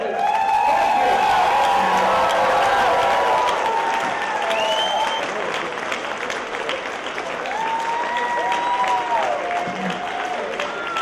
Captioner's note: cheers and applause